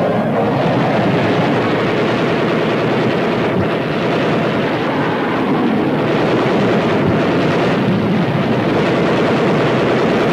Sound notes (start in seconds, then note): 2.1 guns firing